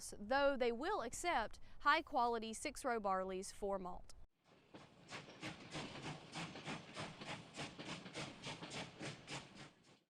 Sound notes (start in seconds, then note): 4.7 train chugging